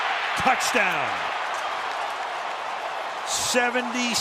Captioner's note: cheering